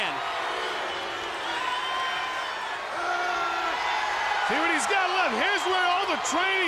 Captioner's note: applause